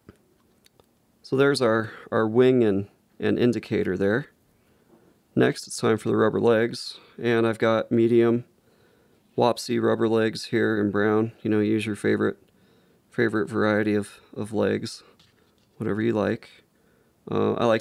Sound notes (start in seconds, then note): none